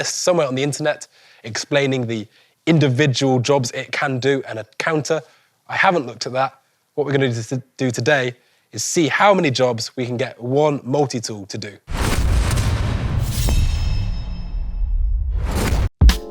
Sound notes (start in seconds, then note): 11.8 logo explodes; 11.9 metallic slice; 16.0 upbeat music